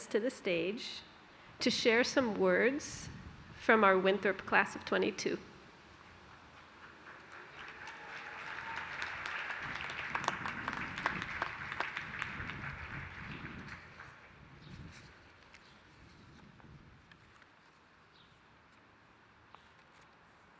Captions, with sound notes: to the stage to share some words from our Winthrop class of '22. [APPLAUSE]